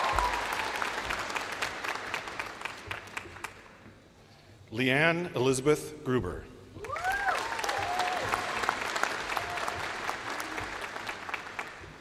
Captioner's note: names being called